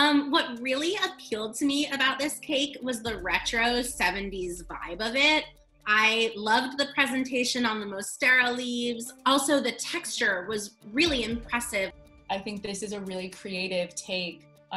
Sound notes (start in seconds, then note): none